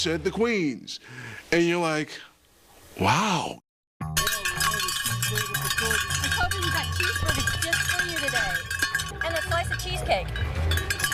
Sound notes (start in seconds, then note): 4.1 cowbells rattling